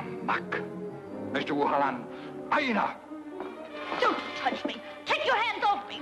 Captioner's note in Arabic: الرجل يتكلم بلغة أجنبية; يتحدث باللغة الأجنبية